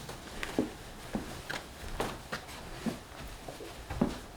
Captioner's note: footsteps on floor